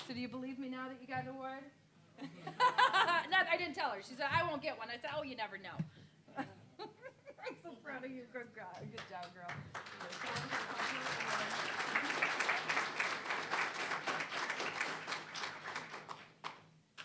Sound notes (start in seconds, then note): 2.2 laughing; 6.4 laughing; 8.9 applause